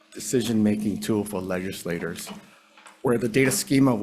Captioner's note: none